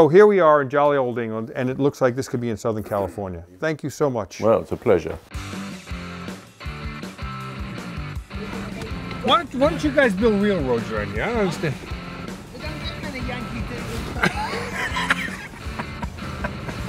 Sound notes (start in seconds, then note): 5.9 upbeat rock music; 12.3 laughs